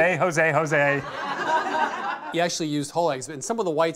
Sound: laughing

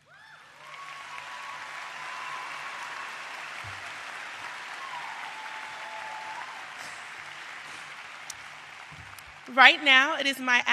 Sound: applause

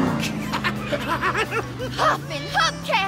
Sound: laughing

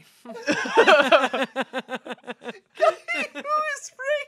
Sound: everyone laughs

